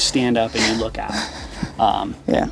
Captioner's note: laughs